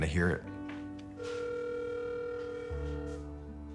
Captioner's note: line ringing